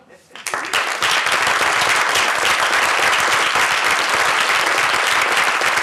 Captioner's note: applause